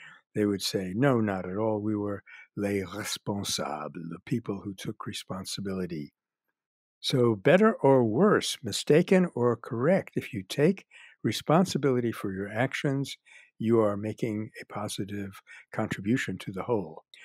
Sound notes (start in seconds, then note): 3.4 French